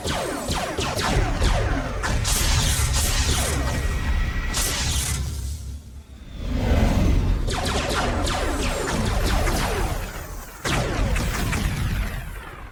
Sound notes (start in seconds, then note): 5.9 spacecraft whooshes; 7.4 cannons blasting; 7.5 explosions booming